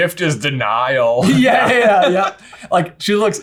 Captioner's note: both laughing